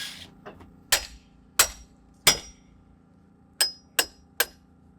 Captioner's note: hammer banging